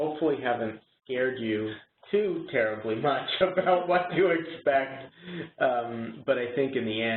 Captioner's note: chuckles